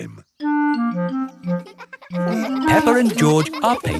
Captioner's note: children laughing